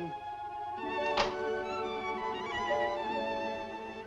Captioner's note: balcony window opens